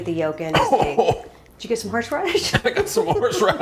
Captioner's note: coughing